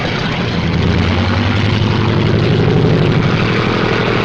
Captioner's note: engines roaring